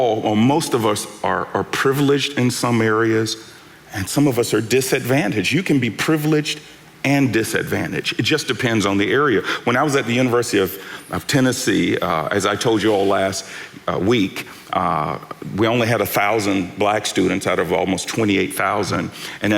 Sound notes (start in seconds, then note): none